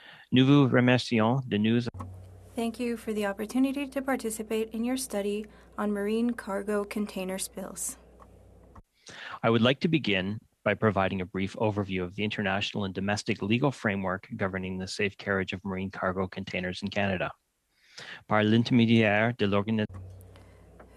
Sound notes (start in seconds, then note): 8.1 speaking French